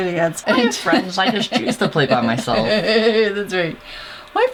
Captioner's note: laugh